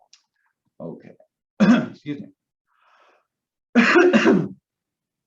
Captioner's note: coughs